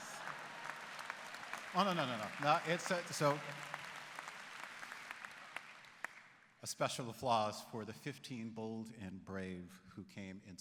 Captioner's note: applause